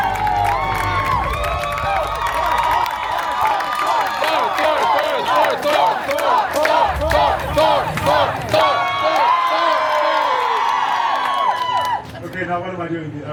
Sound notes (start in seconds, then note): 0.0 guests cheering and applauding; 1.9 guests cheering and chanting Thor’s name